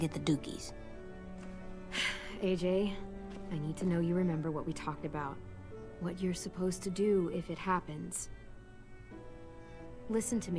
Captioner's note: sighs